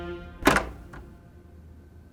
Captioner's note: door rattling